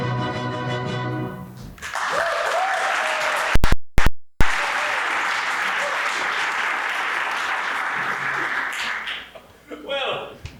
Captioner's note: applause